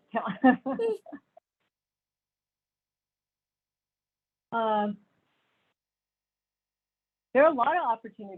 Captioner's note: laughter